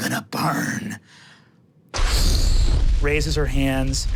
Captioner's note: imitates explosion